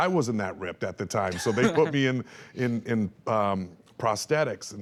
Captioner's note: laughs